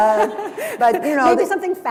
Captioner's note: chuckle